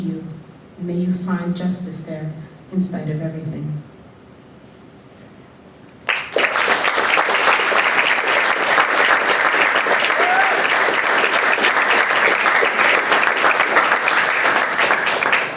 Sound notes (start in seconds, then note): 7.9 applause